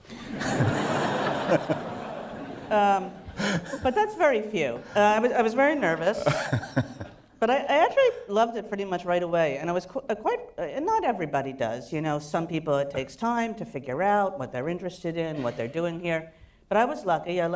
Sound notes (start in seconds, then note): 0.1 laughter; 6.0 laugh